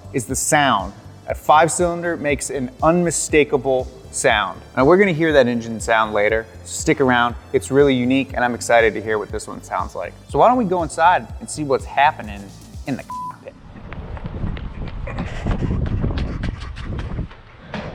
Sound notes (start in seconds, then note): 13.0 beep